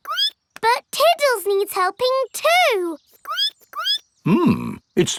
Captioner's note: squeaks